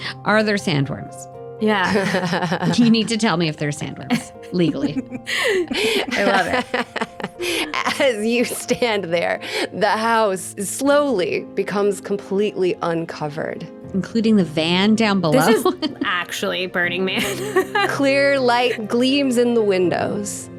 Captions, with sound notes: Are there sandworms? Yeah. (laughing) You need to tell me if there are sandworms, legally. (laughing) I love it. (laughing) As you stand there, the house slowly becomes completely uncovered. Including the van down below. This is actually burning me. Clear light gleams in the windows,